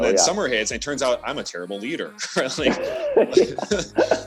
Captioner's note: both laughing